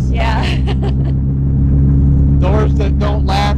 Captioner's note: laughing